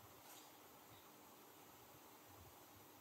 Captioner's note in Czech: none